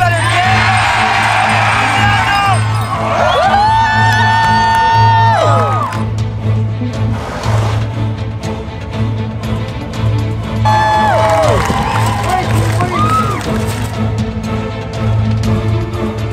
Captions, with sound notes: - You better show some enthusiasm! (crowd cheers) (dramatic music)